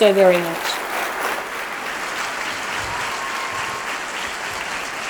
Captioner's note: applause